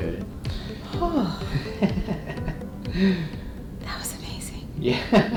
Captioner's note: patient sighs; patient laughs; laughs